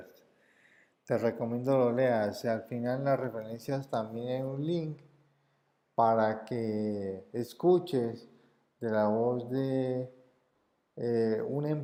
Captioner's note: in Spanish